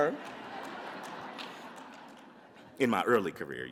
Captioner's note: audience laughs